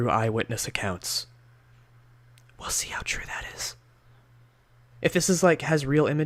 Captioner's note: whispers